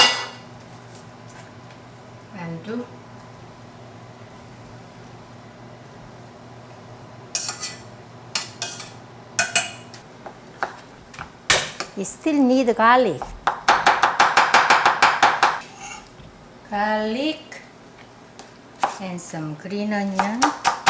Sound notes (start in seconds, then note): 8.0 utensil rattling; 11.8 smacking cutting board; 13.2 knife chopping